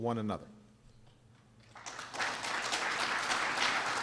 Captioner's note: applause